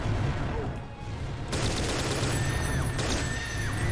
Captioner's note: burst #1, clone dies